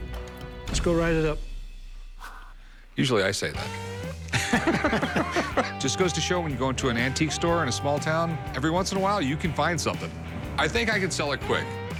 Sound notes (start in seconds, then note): 3.5 laughs